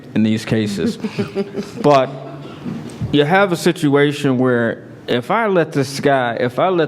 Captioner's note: laugh